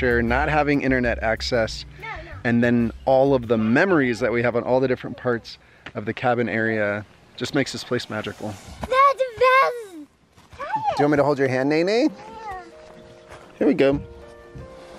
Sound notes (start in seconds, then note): 8.7 hisses